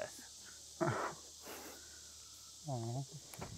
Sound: chuckles

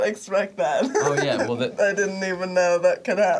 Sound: laughing; laughs

